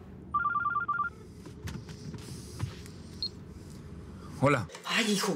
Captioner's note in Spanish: Suena celular